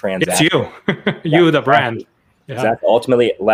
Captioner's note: laughs